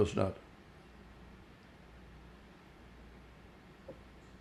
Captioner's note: pauses 8 seconds